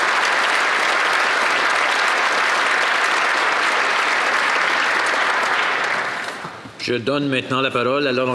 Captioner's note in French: applaudissements